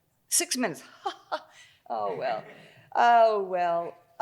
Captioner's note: chuckles